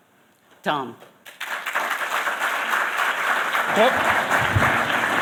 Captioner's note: applause